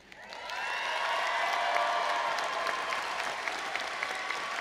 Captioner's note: all applauding and cheering